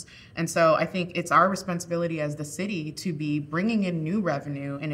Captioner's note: none